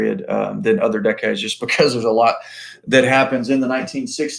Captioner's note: laughs